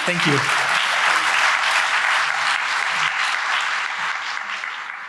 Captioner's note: applause